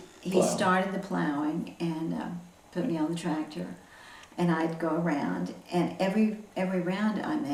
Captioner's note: laughs